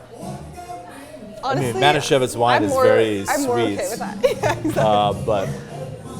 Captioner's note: laughs